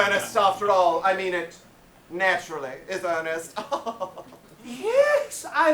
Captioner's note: laughs